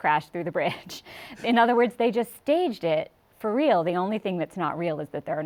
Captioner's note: chuckles